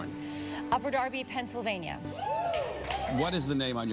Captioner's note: cheers